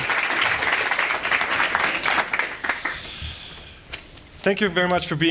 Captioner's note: applause